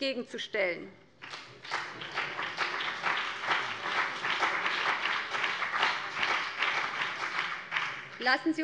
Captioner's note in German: Beifall BÜNDNIS 90/DIE GRÜNEN und CDU